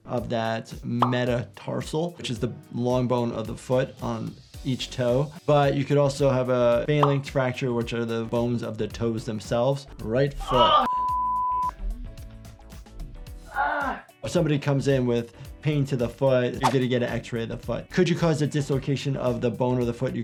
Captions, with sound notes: of that metatarsal which is the long bone of the foot on each toe. But you could also have a phalanx fracture which are the bones of the toes themselves. Right foot. - Oh, (beep). (groans) - If somebody comes in with pain to the foot, you're gonna get an x-ray of the foot. Could you cause a dislocation of the bone or the foot?